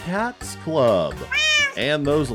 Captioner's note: meow